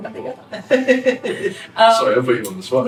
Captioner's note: laughs